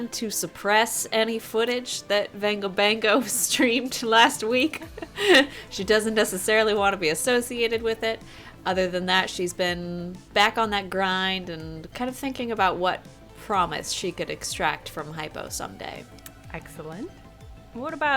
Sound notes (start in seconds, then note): 4.6 laughs